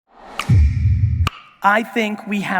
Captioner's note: logo whooshes